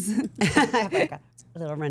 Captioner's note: group laughs